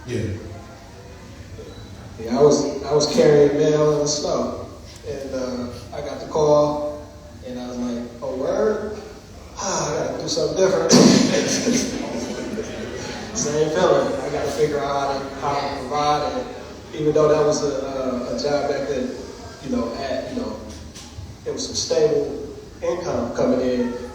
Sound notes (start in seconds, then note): 10.8 laughs